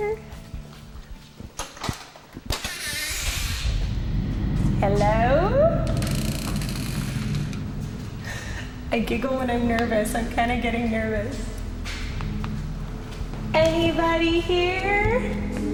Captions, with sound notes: HELLO? (Creaking) I GIGGLE WHEN I'M NERVOUS. I'M KIND OF GETTING NERVOUS. ANYBODY HERE?